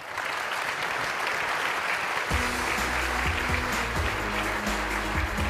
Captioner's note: applause